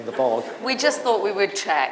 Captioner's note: audience laughing